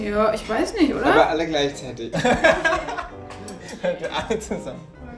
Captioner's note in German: lachend